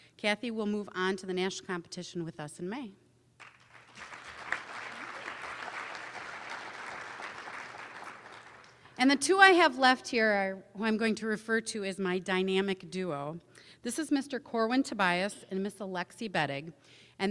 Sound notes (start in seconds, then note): 3.4 applause